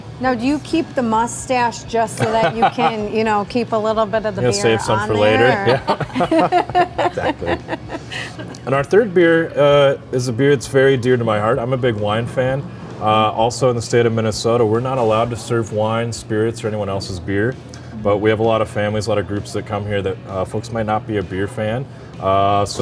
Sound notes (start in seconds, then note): 2.2 laughs; 5.0 laughing